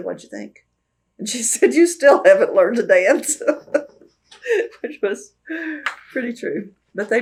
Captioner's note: laughs